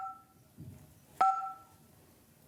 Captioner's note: beeps